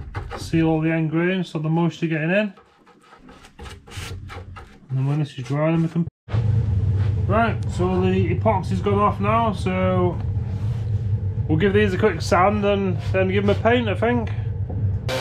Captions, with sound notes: See all the end grains, so the moisture getting in. [footsteps] And I'm going to just dry them with them. Right so the epoxy's going off now so we'll give these a quick sand and then give them a paint I think.